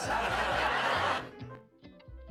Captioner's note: audience laughs